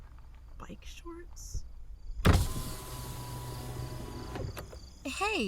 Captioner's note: car window rolls down, night ambience, footsteps in grass